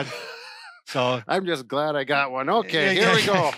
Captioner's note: laughs